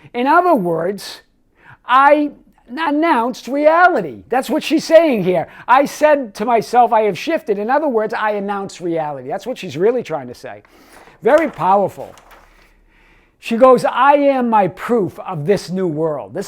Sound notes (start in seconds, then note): 10.6 paper rustles